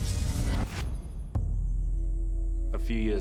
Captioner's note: insects chirping